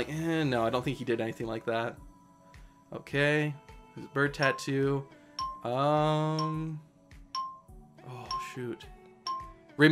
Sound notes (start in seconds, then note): 6.2 countdown timer ticks down